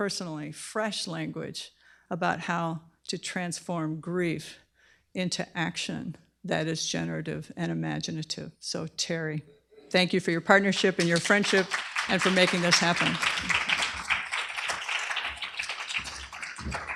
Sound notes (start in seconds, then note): 13.1 applause